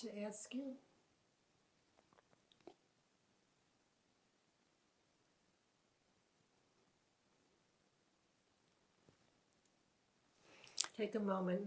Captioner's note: pauses 10 seconds